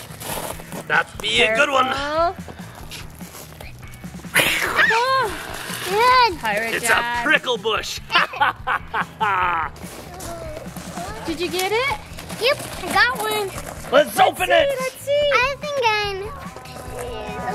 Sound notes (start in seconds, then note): 4.5 growls; 4.6 screams; 8.0 laughs mischievously